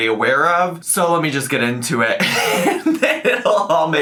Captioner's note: laughs